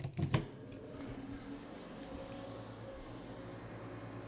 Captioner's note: machine whirring